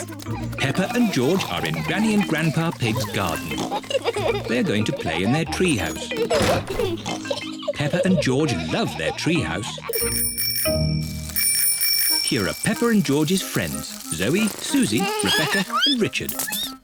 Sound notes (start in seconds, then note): 9.9 bicycle bells ringing